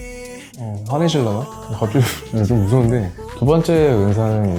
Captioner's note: laugh